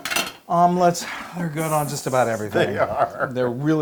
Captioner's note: laugh